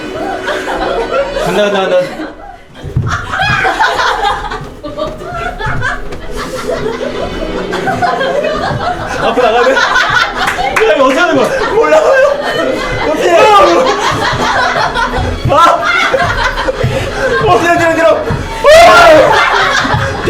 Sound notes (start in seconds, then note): 2.8 galloping